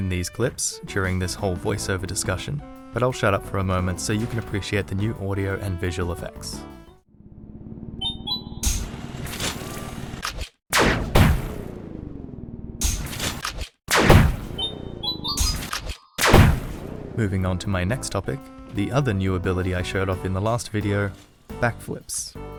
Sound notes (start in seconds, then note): 8.6 drill launch audio